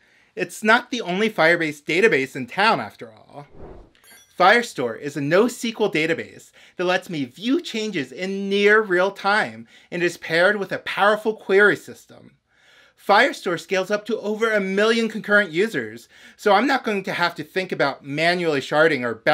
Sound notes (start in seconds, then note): 3.5 whoosh